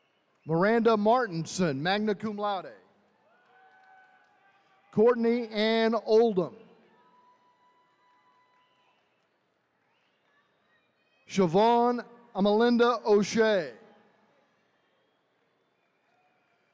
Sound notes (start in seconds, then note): 3.1 attendees cheering; 6.8 attendees cheering